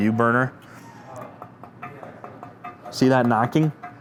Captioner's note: steel clanking